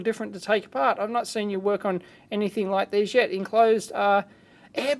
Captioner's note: excited voice